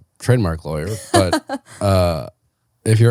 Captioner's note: laughs